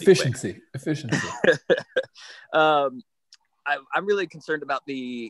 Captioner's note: laughing